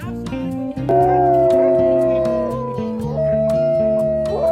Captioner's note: wolf howls to send off the team